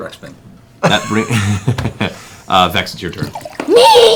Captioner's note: laughs